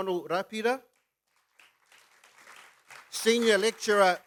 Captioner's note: applause